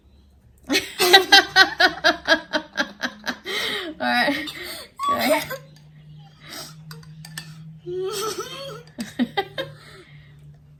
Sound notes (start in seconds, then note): 0.6 both crack up laughing; 8.0 both continue to laugh